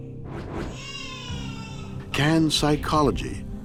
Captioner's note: dark brooding music; cries out